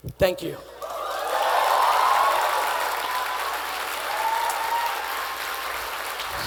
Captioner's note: attendees applauding and cheering